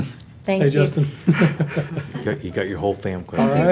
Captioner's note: panel laughs